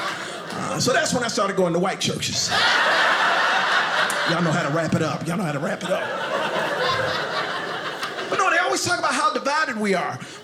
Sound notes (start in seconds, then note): 2.4 audience laughing